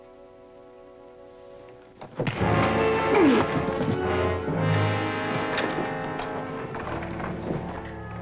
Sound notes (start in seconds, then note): 2.0 thuds; 2.4 Gilman groans